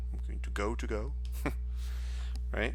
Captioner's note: chuckles